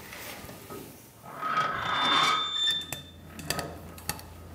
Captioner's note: rattling, squeaking